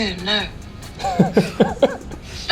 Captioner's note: chuckles